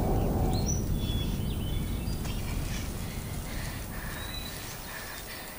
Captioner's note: Whispers